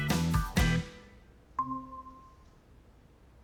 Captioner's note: computer dings